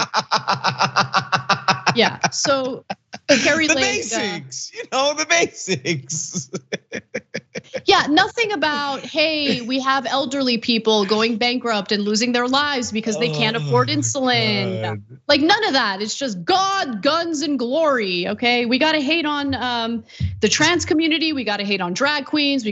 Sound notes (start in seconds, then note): 0.0 laugh